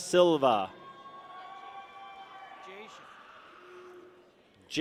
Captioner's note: people cheer